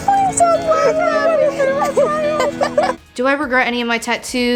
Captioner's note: laughing